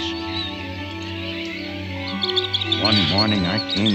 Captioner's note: chirping